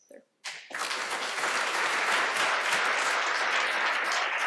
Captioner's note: applause